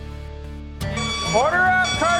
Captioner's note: beeping